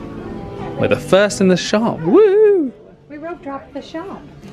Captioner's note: cheers